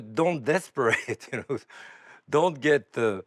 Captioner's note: chuckling